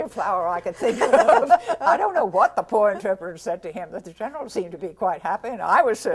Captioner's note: laughter